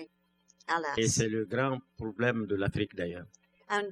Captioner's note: speaking french